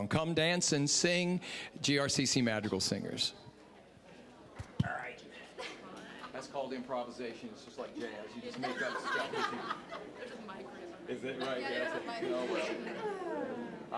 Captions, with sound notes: "Come Dance and Sing," GRCC Madrigal Singers. All right. That's called "improvisation"-- it's just like jazz-- you just make up stuff-- (scattered laughing) >> There's a mic right behind you. >> Is it right-- oh, well.